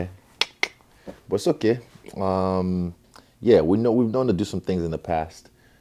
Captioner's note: none